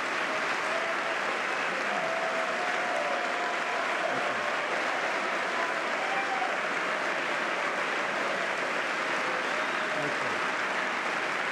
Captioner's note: applause